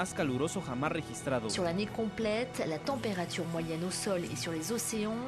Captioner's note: speaking in foreign language